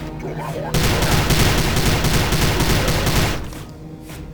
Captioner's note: rifle blasting